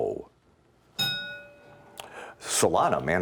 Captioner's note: ding